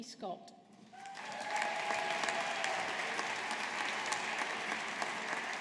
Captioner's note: audience applauding